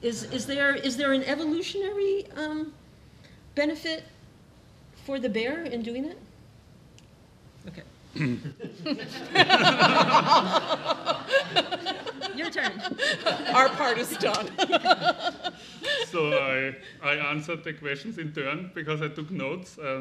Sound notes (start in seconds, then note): 8.8 all laughing; 15.3 laughing